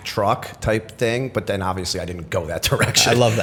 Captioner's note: chuckle